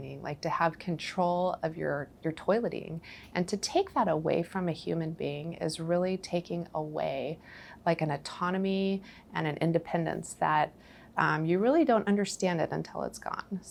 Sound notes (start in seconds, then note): none